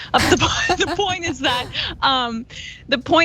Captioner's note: laugh